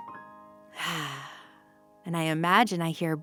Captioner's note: exhales